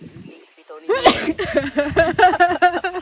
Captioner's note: sneezes